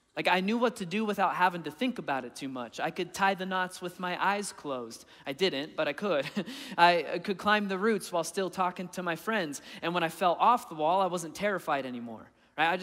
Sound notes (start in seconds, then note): 6.2 laughing